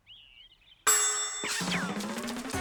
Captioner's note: bell